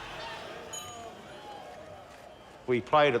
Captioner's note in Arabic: تصفيق الجمهور; هتاف الجمهور